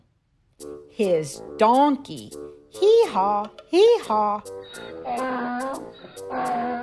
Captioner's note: hee-haw, hee-haw